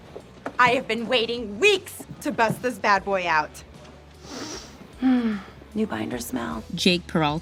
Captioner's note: sniffs